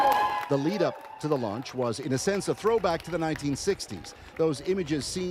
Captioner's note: cheers and Applause